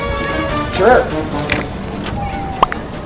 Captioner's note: door Opens